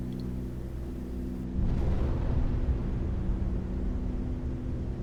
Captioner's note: aircraft engines sounding